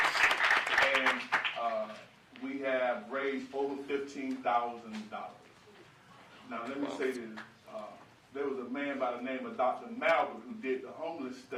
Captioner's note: applause